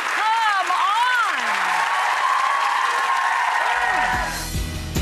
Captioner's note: audience applause; upbeat music